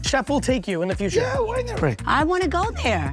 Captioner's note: laughing